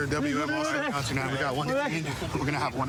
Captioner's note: excited chatter